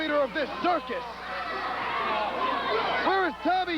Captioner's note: crowd cheering